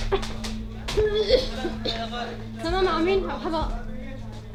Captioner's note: coughing